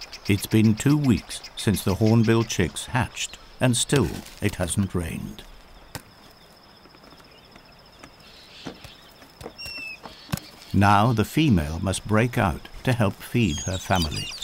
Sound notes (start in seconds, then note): 5.4 pecking; 5.4 birds chirping